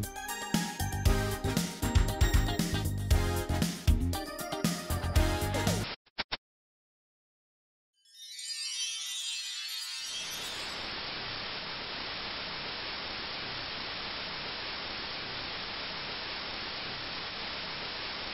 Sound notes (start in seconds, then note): 5.3 VHS static; 8.0 magical chimes; 10.7 television static